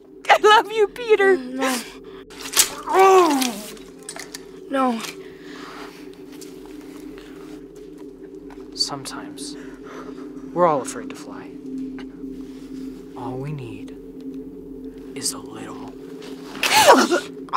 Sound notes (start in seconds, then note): 1.2 groans; 17.3 gasping